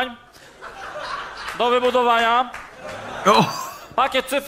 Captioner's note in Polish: Aplauz